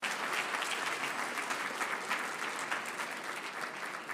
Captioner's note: audience applauding